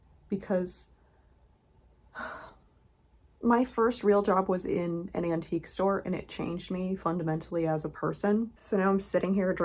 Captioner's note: sigh